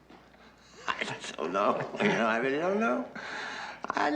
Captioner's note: laughing